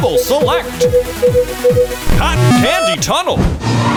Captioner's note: beeping